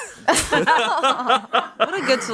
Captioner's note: everyone laughs